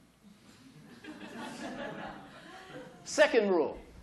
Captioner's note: laughter